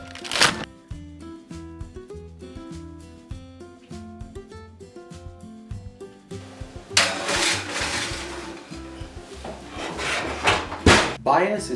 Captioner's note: metal scraping, Kitchen Sounds